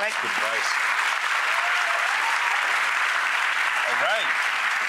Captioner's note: audience clapping and cheering